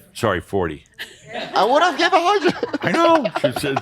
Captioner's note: chuckling